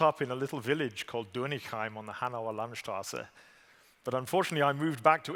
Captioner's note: german